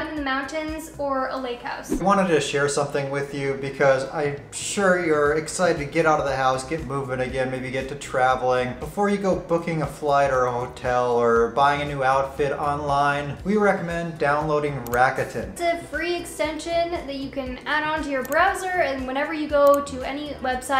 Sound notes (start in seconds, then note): none